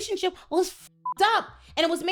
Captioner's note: beep